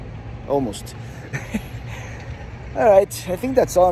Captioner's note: laughs